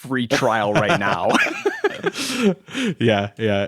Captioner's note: both laughing